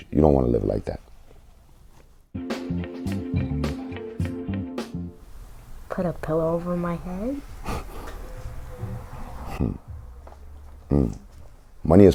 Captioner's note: laughs